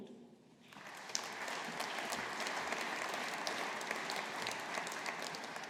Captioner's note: audience applauding